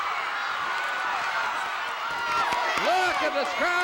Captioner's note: audience cheering